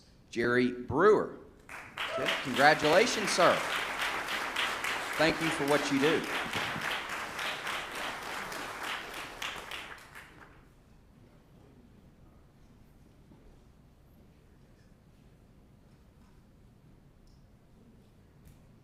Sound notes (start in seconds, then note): 7.3 applause